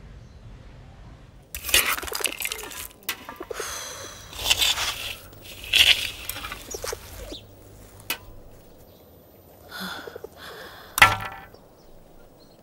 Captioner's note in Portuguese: Sons de criança trabalhando